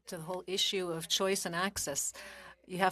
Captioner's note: speaking French